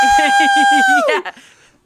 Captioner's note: chuckles